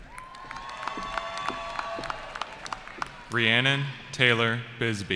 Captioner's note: cheering